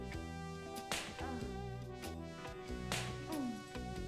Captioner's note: smack; smack